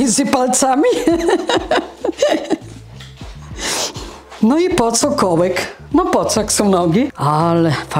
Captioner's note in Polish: śmiech